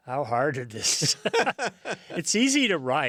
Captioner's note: both laughing